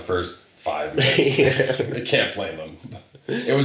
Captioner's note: chuckling